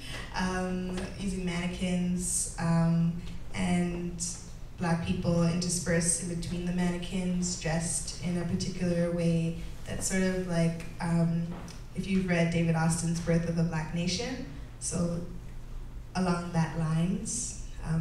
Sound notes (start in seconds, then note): none